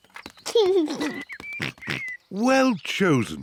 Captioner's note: giggles